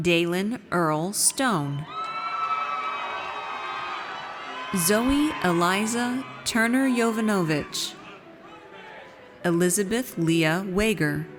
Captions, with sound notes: Daylen Earl Stone. (audience cheers) Zoe Eliza Turner-Yovanovitch. Elizabeth Lea Wagar.